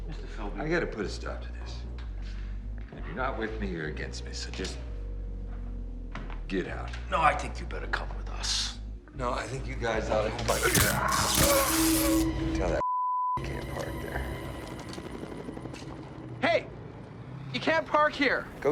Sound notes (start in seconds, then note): 10.5 static sounds